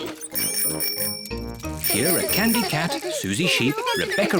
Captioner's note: giggles; bicycle bells tinkle